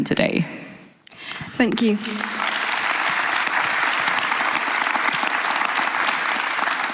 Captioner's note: applause